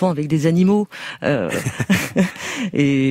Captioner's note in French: rires